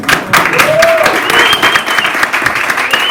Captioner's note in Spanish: aplauso